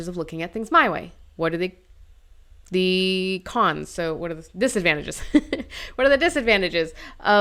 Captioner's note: laughs